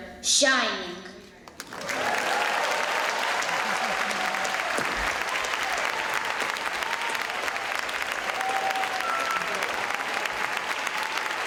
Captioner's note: applause